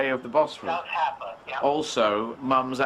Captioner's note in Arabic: يتحدث بلغة أجنبية